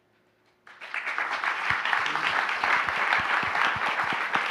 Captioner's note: applause